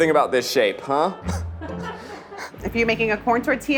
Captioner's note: producer laughing